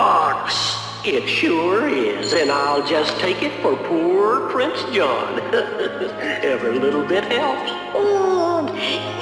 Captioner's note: laughs